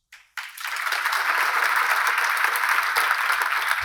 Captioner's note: attendees laughing